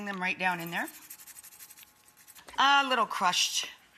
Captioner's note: grating